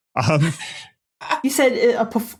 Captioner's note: snickers; cackles